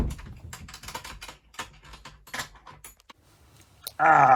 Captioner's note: door close; key in lock